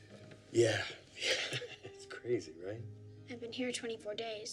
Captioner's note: laughs